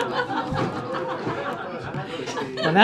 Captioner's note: laughs; laughter